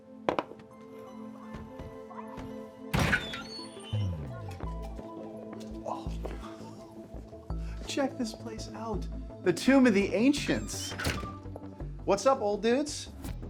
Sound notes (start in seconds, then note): 0.2 eerie music; 2.9 door squeaks